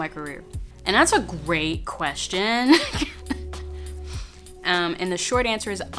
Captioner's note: laughs